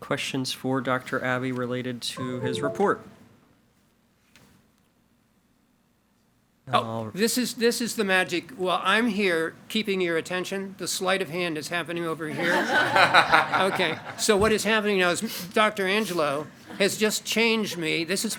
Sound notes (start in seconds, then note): 12.4 board members and attendees laugh